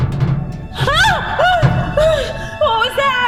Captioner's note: clattering; Sheila screaming